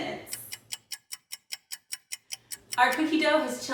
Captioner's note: clock ticking quickly